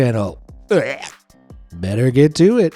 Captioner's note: gag